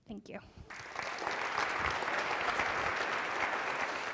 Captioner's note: applause